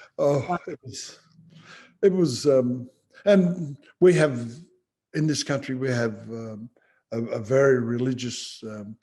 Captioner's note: laughs